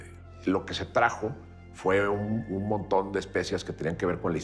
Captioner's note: man 4 in Spanish